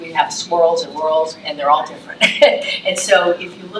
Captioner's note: chuckles